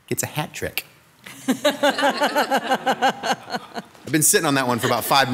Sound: all laughing

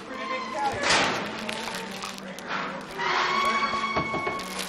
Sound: metal clanging

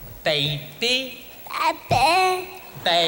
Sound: audience responds

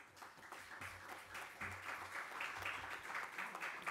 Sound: audience applauds

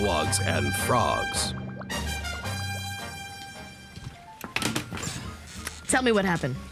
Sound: bubbling

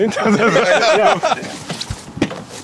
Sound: laughs

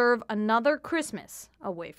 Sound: speaking French

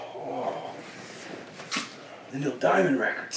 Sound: groaning

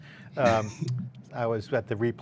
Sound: laughing

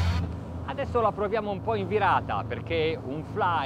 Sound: speaking in foreign language

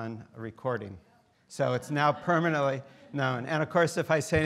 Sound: students laughing

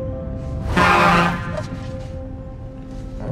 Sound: trunk honks

